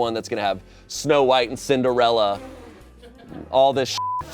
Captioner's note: beep